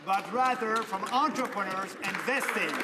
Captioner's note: some Applause